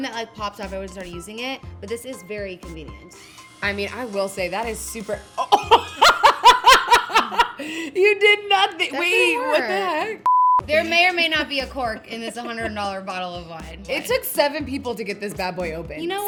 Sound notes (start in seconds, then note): 5.4 laughs; 10.2 beep